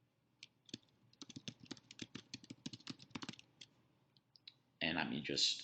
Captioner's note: keyboard keys clicking